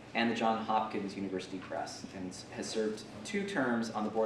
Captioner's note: none